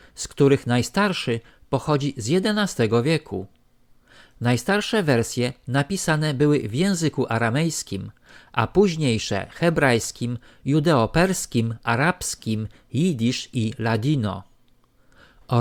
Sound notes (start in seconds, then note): 13.1 judaeo-Spanish